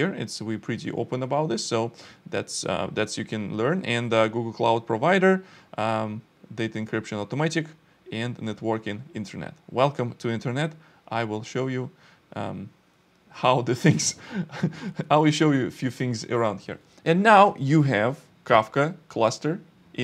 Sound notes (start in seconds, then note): 13.8 laughs